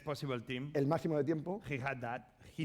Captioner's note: speaking spanish